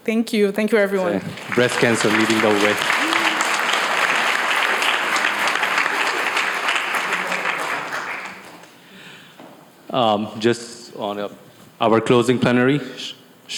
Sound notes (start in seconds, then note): 3.8 crowd applauding